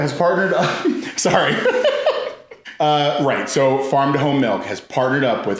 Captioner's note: laughs